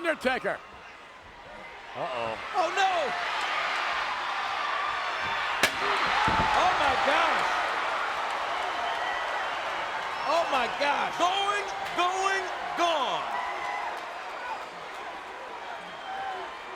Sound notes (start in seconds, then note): 4.1 chair smacking; 4.1 crowd chattering; 13.6 crowd chattering